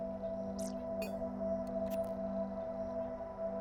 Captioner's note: digital clicks